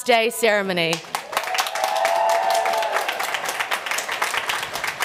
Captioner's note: applause